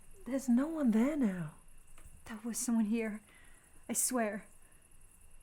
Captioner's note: none